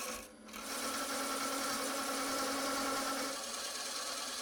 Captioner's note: lathe whirring